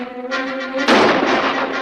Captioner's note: gun fires